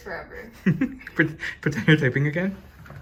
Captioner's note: giggles